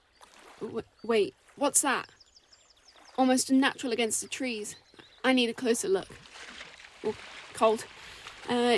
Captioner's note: steps in lake